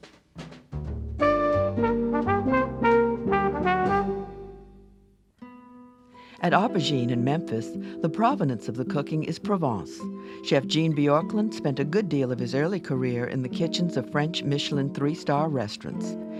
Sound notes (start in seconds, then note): 0.6 jazz music; 6.3 voiceover